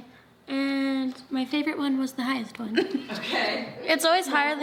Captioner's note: laughs